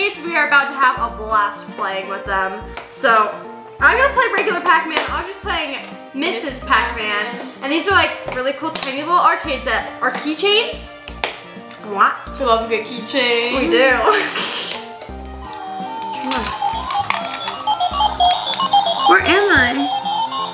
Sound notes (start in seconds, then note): 14.0 snickers; 16.0 video games beeping